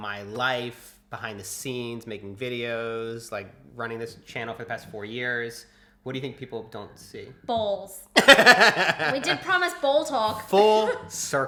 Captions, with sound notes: from my life behind the scenes, making videos like running this channel for the past four years? What do you think people don't see? - Balls. - (laughs) We did promise ball talk